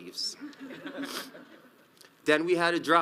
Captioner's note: audience laughs